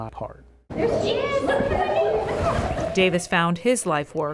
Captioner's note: kids shouting